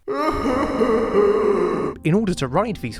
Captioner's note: sound of horse crying